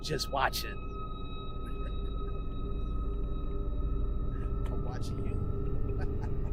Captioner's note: chuckles